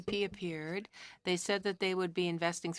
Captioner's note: speaking French